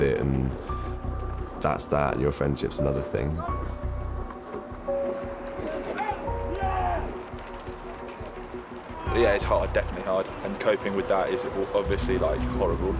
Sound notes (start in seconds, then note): 4.7 light music; 4.7 rowers grunting